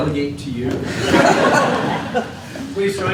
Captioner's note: laughter